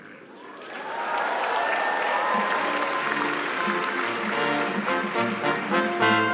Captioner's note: applause; cheering; upbeat band music